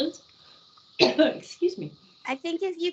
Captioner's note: coughing